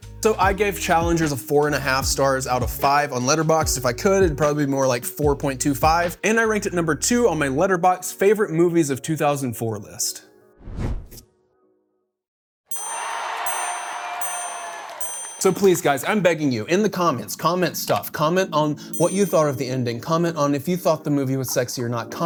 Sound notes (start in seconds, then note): 15.3 audience cheering